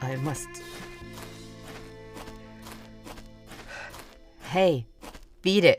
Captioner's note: footsteps, music fades out